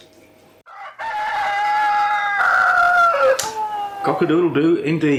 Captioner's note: cock-a-doodle-do